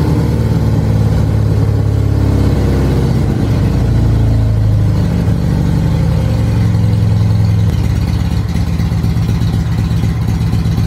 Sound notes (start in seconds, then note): 5.3 engine returns to a fast idle; 8.3 engine idling